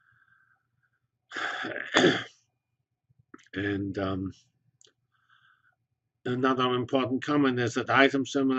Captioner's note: cough